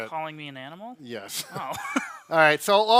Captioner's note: laughs